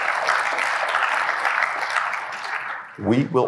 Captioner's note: applause